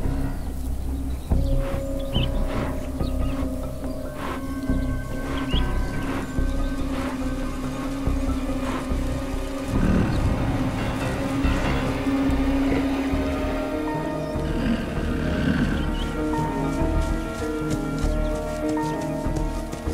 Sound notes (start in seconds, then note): 4.6 Snorting; 9.4 Snorting Continues; 14.2 Growling